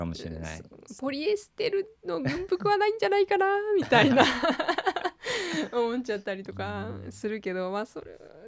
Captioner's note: laughter